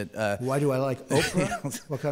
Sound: laughs

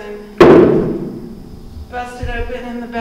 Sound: thudding

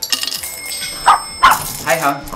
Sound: door bell, Dog bark

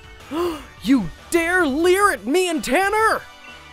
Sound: gasps

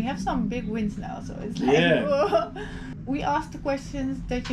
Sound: sighs

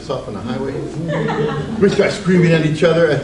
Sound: audience laughs

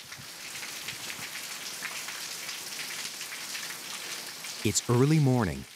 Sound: rain falling

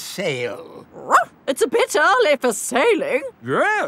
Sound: barks

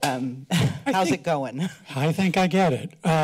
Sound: chuckles

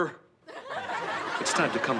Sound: audience laughs

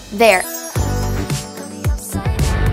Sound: upbeat music; bells chiming

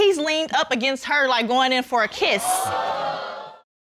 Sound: audience gasps

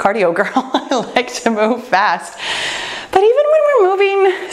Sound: laughs

